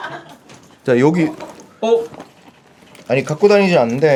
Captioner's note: rummaging